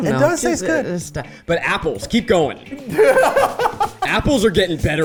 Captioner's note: laughing